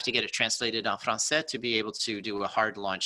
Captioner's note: speaking in foreign language